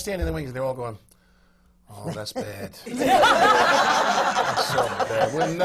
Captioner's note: laughter